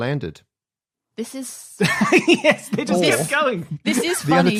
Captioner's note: laughs